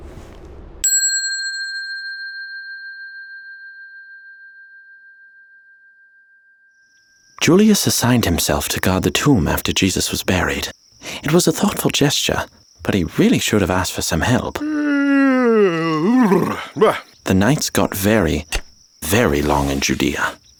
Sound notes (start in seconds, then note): 0.8 bell ringing; 14.6 Julius yawning